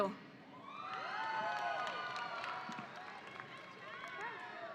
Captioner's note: audience applauding